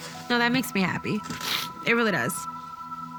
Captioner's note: sniffles